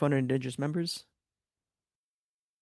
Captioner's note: speaking in French